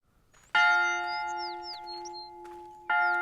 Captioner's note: school bell ringing